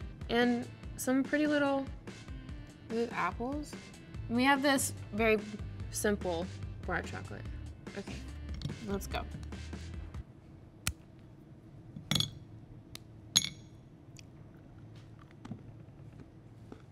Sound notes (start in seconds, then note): 10.7 chocolate bar snaps